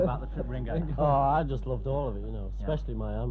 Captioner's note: overlapping chattering; group laughing